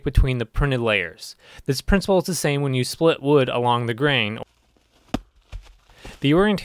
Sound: log splitting

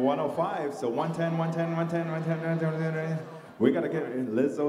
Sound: mimicking an auctioneer

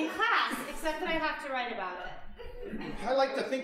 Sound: audience chuckling

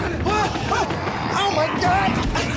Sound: zombie groans

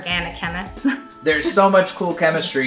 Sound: laughs

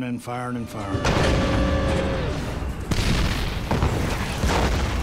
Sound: cannon shots exploding

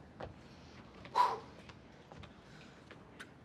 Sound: exhales sharply

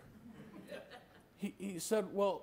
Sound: laughter

